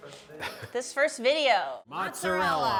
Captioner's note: chuckles